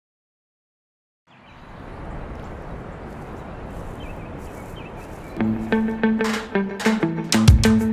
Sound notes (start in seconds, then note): 1.2 birds chirp; 5.4 upbeat music